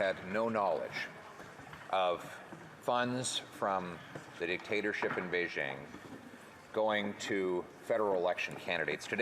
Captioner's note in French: voix de l'interprète